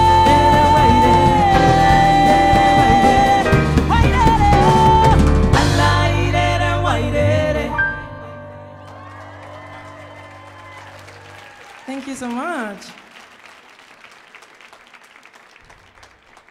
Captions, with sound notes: (Cuban music continues) (audience cheering and applauding) Thank you so much.